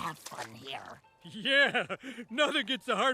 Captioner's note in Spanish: riendo